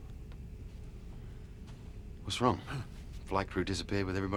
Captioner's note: gasps